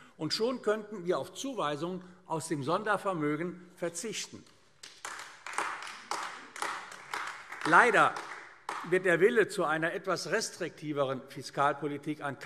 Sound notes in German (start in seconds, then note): 4.8 Beifall AfD